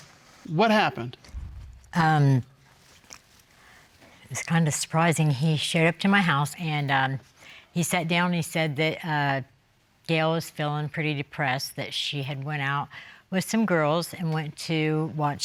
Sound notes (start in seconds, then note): none